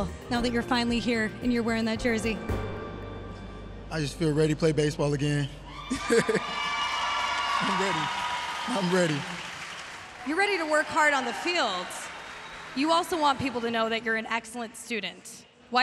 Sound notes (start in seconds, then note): 5.6 audience cheering